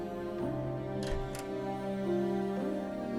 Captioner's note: door opens